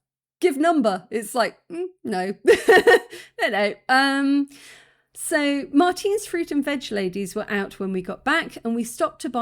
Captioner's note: laughing